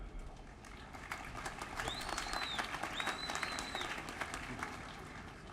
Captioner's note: applause